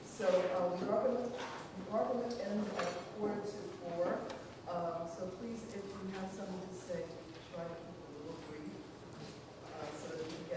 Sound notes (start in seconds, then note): none